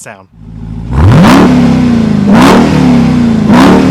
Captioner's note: engine revving